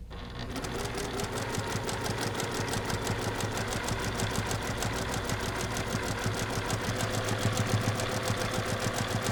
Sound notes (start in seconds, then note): 0.0 sewing machine churning